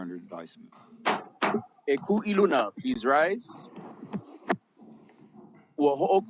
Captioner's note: gavel bangs twice